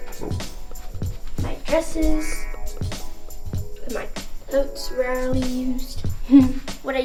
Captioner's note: laughs quietly